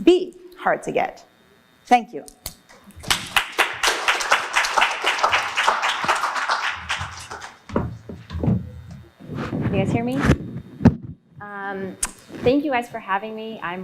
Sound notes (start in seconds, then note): 3.0 applause